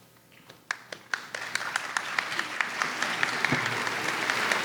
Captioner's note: audience applauds